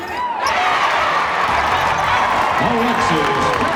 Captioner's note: cheers and applause